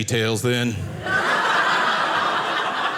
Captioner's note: audience laughing